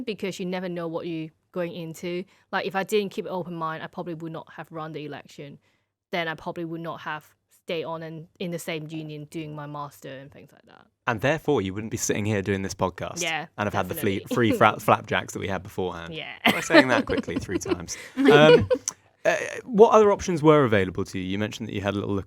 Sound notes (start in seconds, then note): 19.0 person laughing